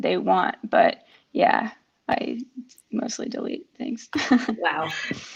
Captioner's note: laughs